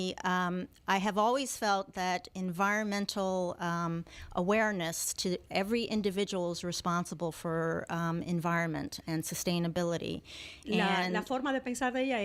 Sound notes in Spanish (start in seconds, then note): 9.0 Hablando ingl\s